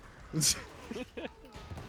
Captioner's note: laughter